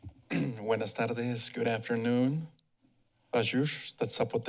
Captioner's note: foreing language; foreign language